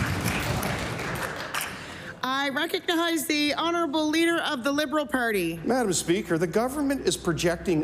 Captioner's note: applause